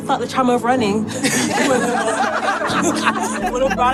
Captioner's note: all laughing